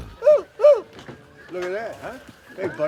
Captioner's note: moaning